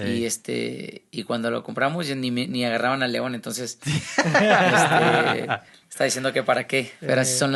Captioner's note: laughs